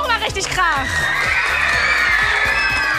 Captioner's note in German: Lauter Jubel